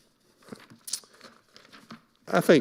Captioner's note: papers rustling